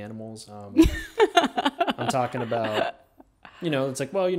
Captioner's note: laughing